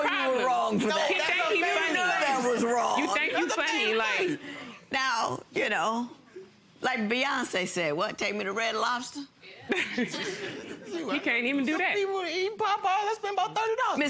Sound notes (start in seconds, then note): 9.7 audience laughing